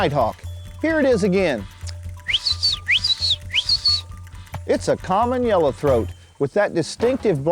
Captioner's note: wildlife call